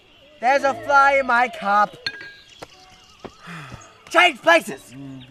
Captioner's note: sigh